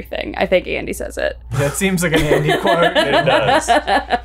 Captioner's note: keeps laughing; laughs